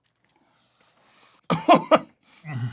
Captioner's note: coughs; groans